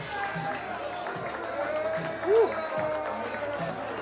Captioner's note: crowd cheering